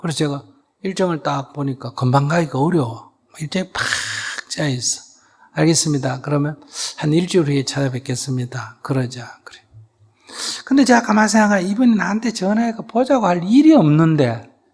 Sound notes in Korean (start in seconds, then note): none